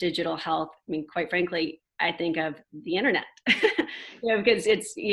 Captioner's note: chuckles